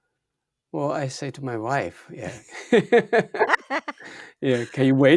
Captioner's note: laughs